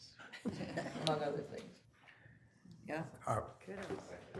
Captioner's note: all laughing